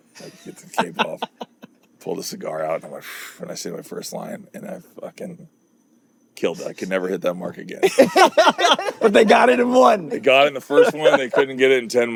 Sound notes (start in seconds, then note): 0.2 laughing; 7.8 both laughing